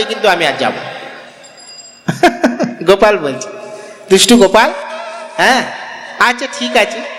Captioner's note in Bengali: সশব্দ হাসি